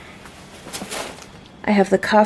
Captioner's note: thumpf